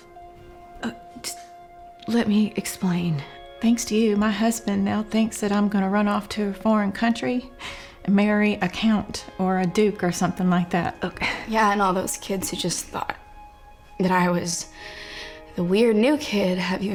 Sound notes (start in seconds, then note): none